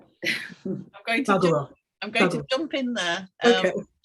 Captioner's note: woman chuckling